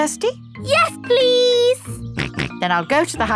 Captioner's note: snorts